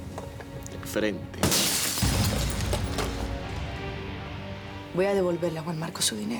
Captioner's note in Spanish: Estruendo de vidrios rotos